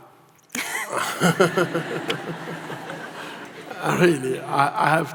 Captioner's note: audience laughs